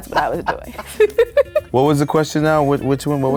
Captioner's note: laughing